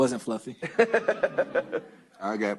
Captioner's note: laughter